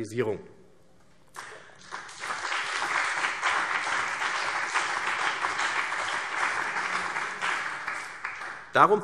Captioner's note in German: Beifall CDU und BÜNDNIS 90/DIE GRÜNEN